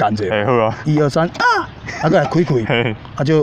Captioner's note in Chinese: 笑聲